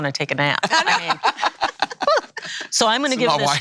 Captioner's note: laughing